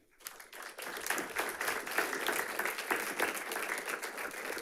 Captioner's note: audience applauds